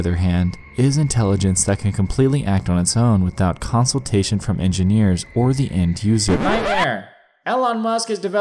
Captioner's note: record scratch